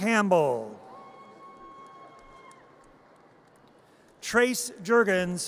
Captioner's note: audience cheers